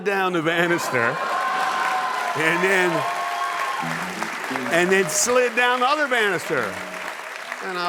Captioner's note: applause